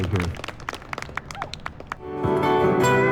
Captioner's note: applause